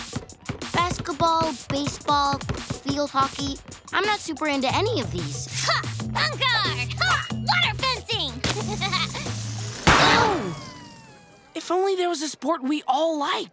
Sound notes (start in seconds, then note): 8.4 laughing